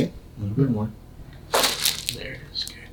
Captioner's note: loud crack